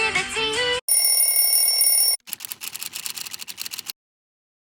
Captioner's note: ring ring!!!